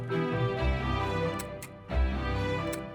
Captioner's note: camera shutter clicks